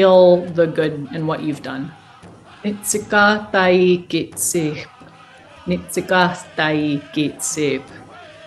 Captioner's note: speaking non-english language